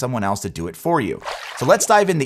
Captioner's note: water splashing